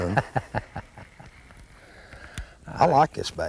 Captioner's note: laughter